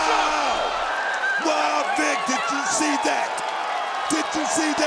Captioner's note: crowd cheers